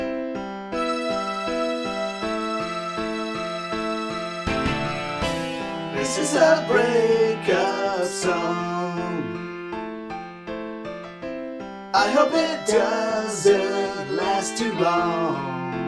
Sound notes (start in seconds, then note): none